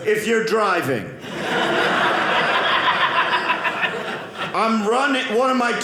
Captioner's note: audience laughing